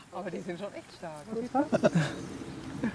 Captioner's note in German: Gesprächsfetzen, Lachen